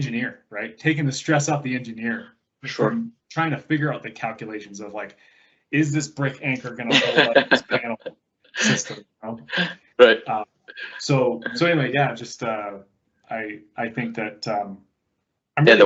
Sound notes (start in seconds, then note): 9.2 laughs